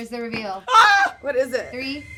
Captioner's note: screams